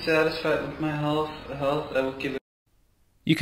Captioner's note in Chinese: 录音